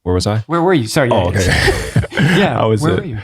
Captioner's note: chuckling